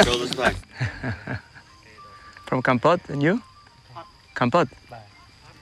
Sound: chuckles

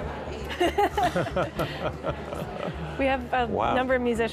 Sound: laughing

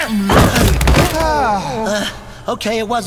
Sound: all groan

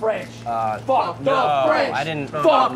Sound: crowd

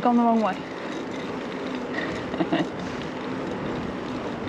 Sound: laughter

